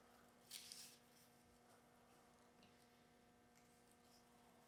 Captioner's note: leaf rustling